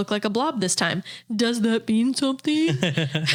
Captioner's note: mocking tone; laughing